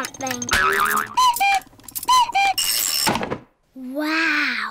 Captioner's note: clock cuckoos